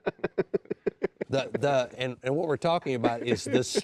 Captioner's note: laughing